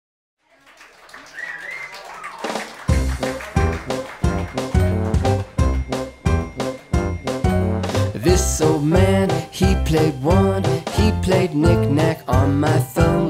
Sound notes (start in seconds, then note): 0.4 applause